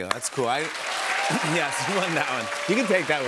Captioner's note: cheers and applause